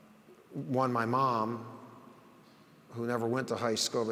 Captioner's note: none